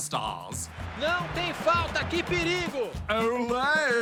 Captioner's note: speaks portuguese